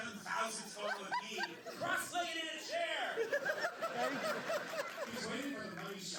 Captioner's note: laughter